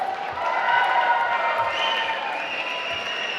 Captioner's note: applause